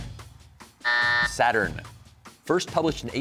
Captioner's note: buzzer sounds